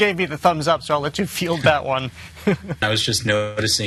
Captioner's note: chuckles